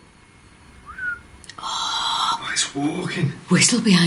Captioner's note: low whistle